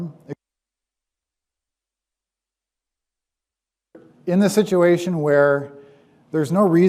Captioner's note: audio cuts